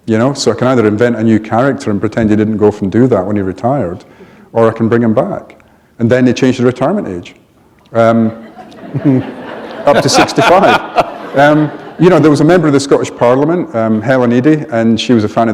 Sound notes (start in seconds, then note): 8.4 laughter